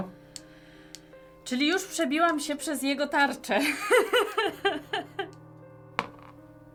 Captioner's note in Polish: śmiech